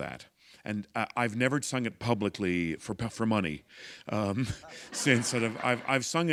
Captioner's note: laughter